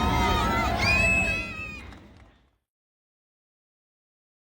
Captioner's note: تشویق حضار